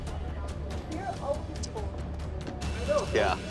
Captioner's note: bar chatter